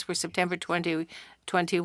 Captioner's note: speaking French